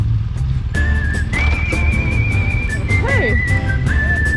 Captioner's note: motorbike roaring; lively music